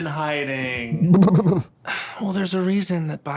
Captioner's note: Katya splutters